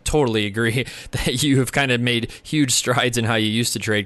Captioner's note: chuckles